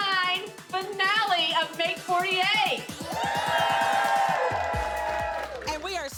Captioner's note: all cheering